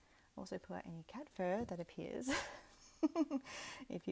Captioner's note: chuckles